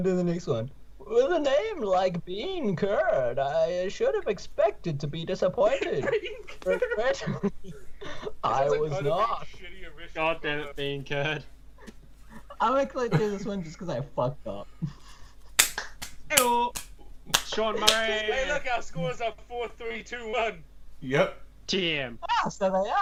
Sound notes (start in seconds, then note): 5.6 laughs